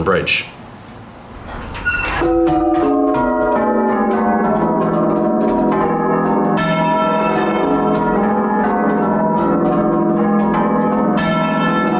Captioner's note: sound of muffled bells